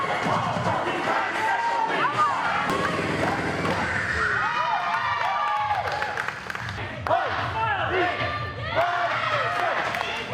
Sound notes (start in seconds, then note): 4.6 people cheering and clapping